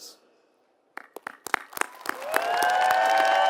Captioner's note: applause